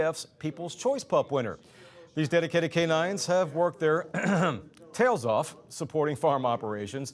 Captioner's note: clears Throat